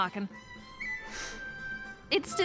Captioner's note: sniffs